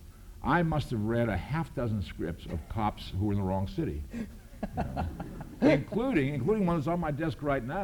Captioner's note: laughs